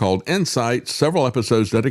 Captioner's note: none